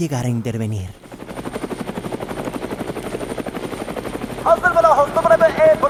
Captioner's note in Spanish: Sonido de hélices de helicóptero